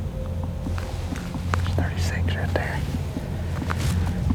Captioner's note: whispering